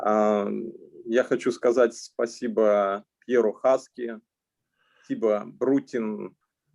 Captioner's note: speaking Russian language